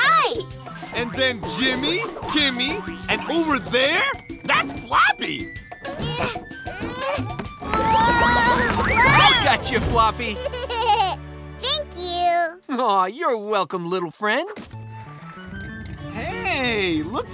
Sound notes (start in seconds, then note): 5.5 grunting; 10.3 giggling